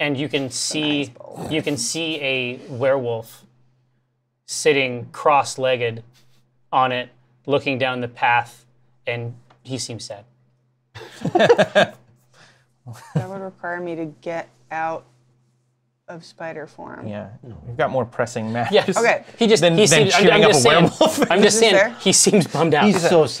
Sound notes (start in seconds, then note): 10.9 laughter; 19.5 stammers; 19.9 laughs